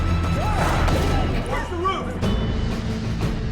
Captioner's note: gunfire